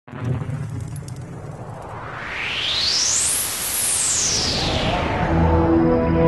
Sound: swoosh sound

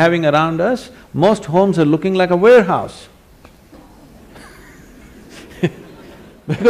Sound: laughter; 笑聲

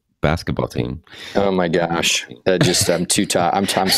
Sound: laughing

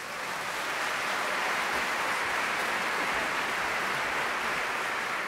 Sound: applause

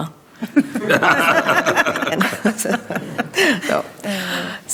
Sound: group laughing

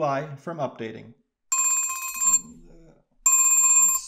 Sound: phone ringing

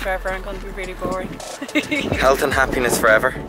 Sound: laugh

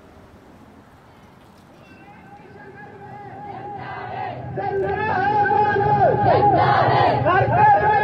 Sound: protestors chanting in Urdu

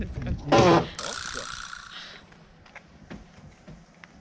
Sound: the door makes ugly sound

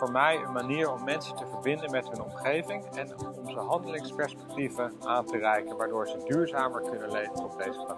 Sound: speaking in Danish

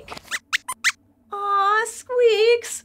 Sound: squeaks squeaks

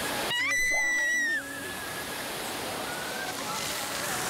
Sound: screaming

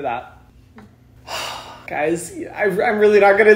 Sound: sighs

